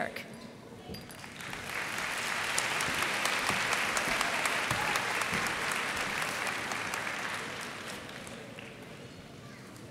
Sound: applause

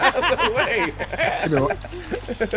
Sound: laugh

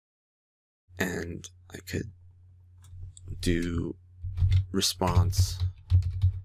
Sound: typing

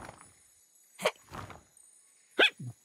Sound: hiccups

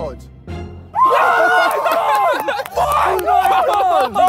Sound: Sidemen cheering

